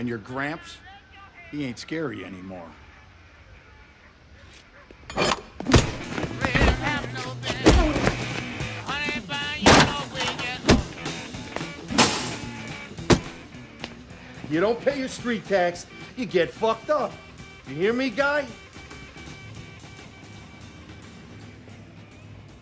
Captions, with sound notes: And your gramps, he ain't scary anymore. (bar thudding) (glass shattering) - You don't pay your street tax, you get fucked up. You hear me guy?